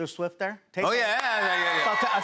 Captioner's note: cheers and applause